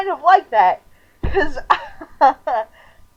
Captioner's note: laughing